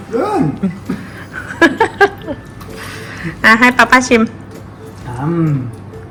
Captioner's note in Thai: เสียงหัวเราะ